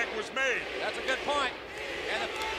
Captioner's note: crowd chatter